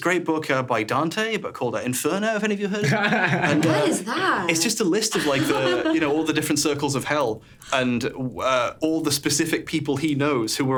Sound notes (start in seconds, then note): 5.1 laughing; 5.9 fire crackling softly